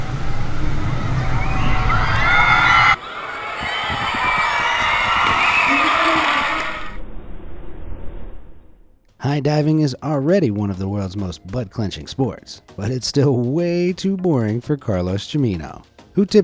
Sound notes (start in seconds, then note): 2.2 audience cheering